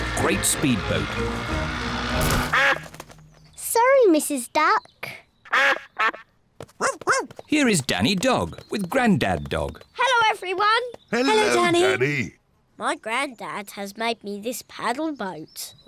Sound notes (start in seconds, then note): 0.1 duck quacks; 2.3 quacks; 4.2 barks